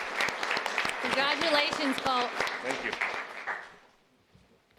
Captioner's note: cheers and applause